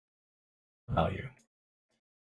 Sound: none

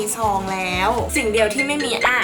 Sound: ring ring ring

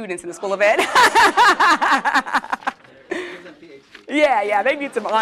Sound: laugh

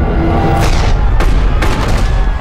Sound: people screaming; gun fires

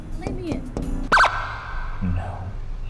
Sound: police siren

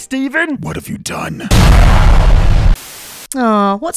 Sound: boom

